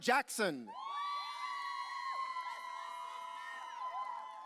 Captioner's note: audience cheering